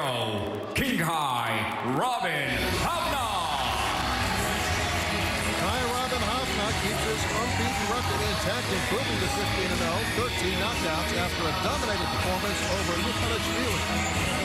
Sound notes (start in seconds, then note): 3.6 cheering